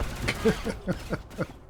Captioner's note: laughs